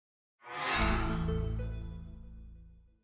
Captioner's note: chime